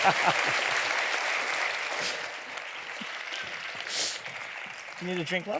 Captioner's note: laughing; audience applauding